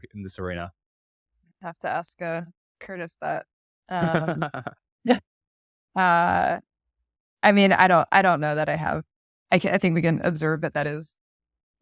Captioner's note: laughter